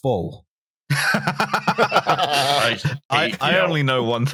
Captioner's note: laughter